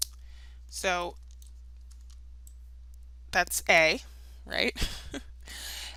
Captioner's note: chuckles